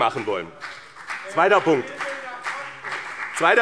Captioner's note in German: Beifall BÜNDNIS 90/DIE GRÜNEN, vereinzelt SPD und DIE LINKE